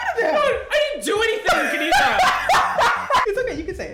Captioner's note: laughs